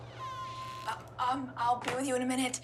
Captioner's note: door opens